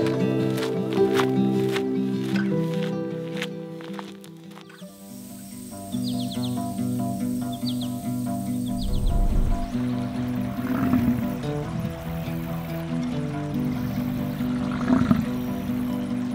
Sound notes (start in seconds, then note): 0.0 gravel crackling; 6.1 birds chirping; 9.9 water sloshing; 10.7 bison bellowing